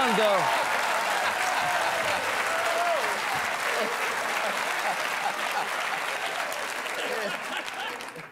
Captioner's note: cheers and applause; laughter; applause